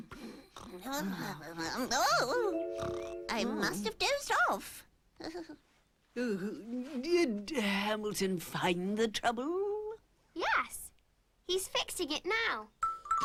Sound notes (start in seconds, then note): 0.2 clucking; 4.6 chuckling; 6.2 yawning